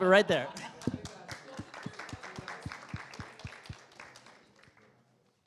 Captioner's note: applause